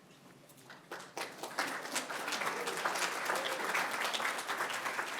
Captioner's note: applause